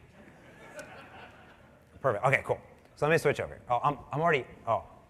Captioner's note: laughter